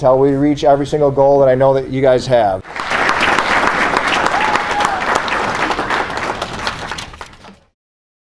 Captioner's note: applause